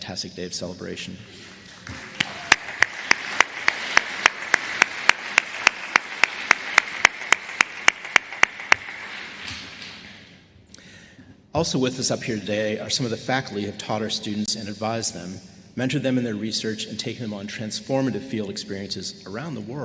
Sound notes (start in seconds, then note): 5.8 applause